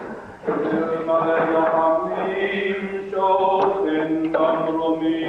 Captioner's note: chanting in foreign language